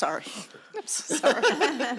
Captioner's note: laughing